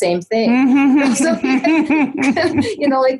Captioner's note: laughing loudly